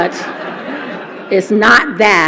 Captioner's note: laughter